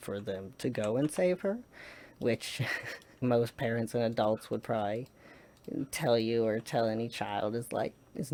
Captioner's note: laughs